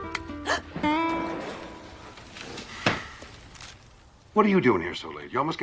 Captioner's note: Alice gasps